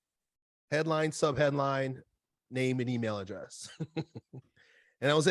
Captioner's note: laughs